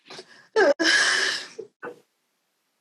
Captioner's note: sniffles